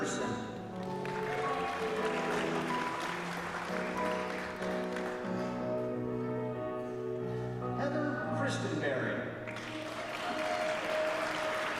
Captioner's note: applause